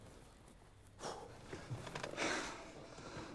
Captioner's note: exhales, sighs